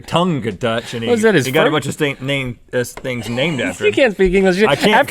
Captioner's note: stutters